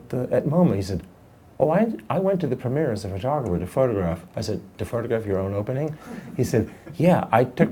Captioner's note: laughing